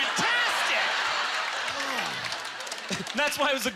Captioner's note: audience laughter